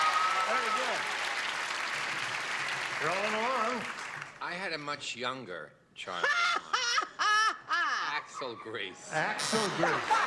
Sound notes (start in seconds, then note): 2.6 clapping; 7.7 laughing; 9.6 wrong buzzer